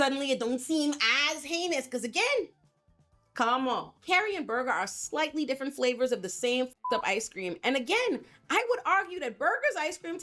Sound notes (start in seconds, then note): 6.8 beep